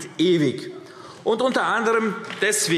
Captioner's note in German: Beifall AfD – Zurufe